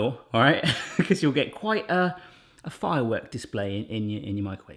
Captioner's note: laughing